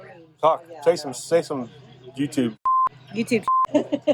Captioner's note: beep